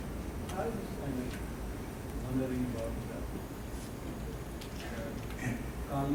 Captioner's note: audience member speaking quietly